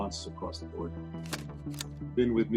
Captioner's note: camera flashing